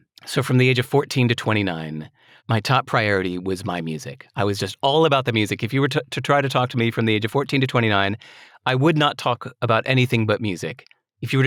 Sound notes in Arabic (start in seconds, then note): none